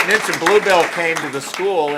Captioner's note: applause